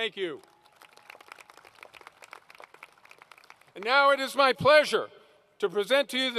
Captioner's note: applause